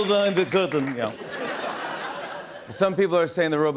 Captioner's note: Russian accent; light laughter; normal voice